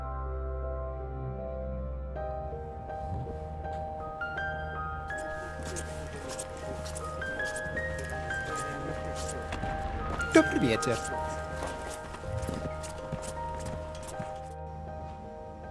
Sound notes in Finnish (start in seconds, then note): 4.5 pariskunta kävelee, mutisee; 9.5 tervehtii venäjäksi; 11.3 pariskunta hiljenee, askeleet kiihtyvät